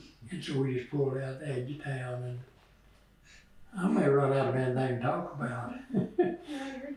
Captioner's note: laughs